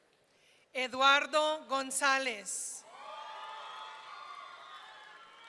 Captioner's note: audience cheering